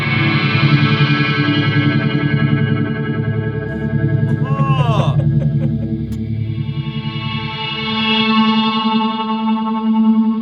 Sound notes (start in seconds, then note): 5.4 both Reacting to laughing with enjoyment